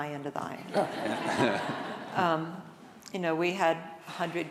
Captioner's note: audience laughing